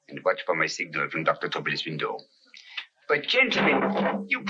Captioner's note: arguing in French